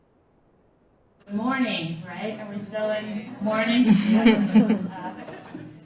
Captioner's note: laughing